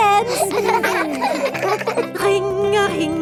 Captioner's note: giggling